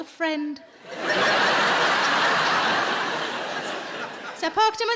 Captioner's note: audience laughing